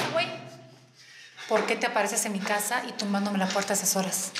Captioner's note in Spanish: portazo